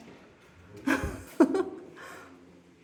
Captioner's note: laughing